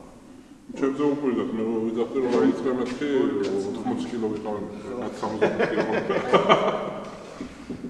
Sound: laughs

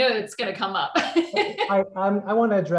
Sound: laughs

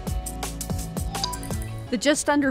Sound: upbeat, uplifting music; computerized dinging sound

